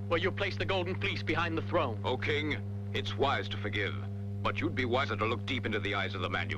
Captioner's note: none